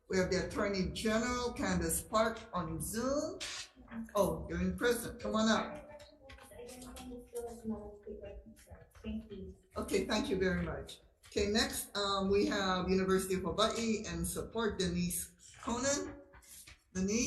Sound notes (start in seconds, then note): 7.6 audio muffles